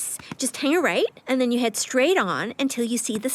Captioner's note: none